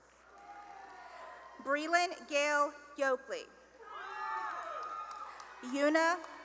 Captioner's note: cheering and applause; cheering and applause